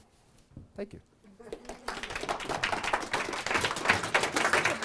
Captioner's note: audience applauds